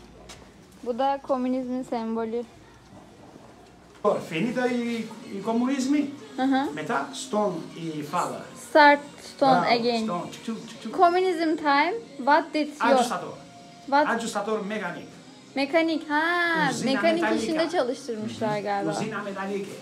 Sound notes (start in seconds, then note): 7.7 albanian speech